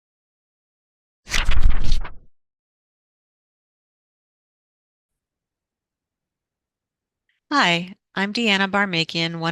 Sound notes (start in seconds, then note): 1.3 pages turning